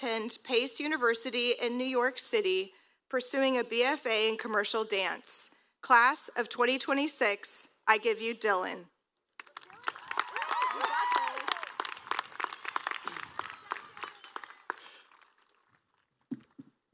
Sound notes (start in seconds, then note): 6.7 applause